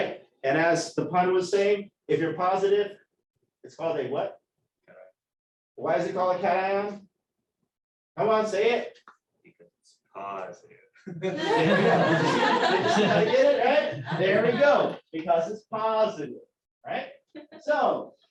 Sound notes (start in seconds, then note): 11.0 laughter